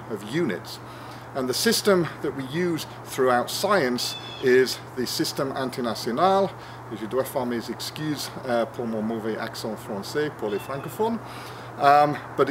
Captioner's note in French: en français…